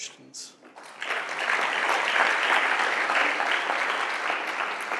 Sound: applause

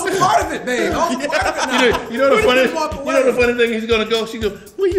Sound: laugh

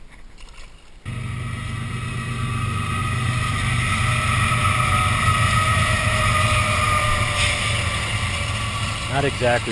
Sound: loud train noise

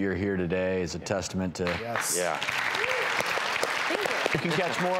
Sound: audience claps

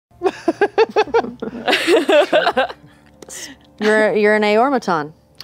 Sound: laughter

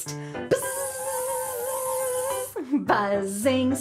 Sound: buzzing

